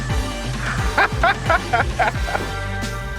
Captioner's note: upbeat music playing; laughing